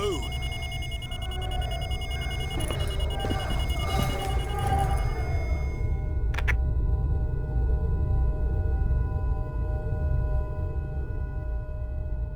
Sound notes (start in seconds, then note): 3.8 phone ringing; 5.6 coughing